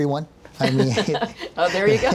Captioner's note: laughing